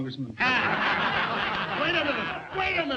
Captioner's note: all laughing